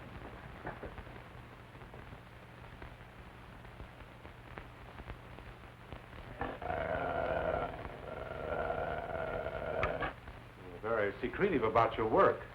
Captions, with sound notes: (wolf growling) You're very secretive about your work.